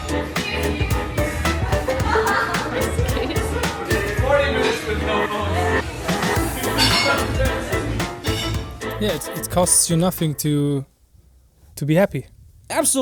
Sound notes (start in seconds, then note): 1.1 crowd laughing; 7.1 bright upbeat music